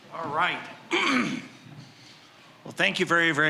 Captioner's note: clearing throat